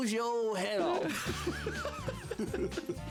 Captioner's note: both chuckling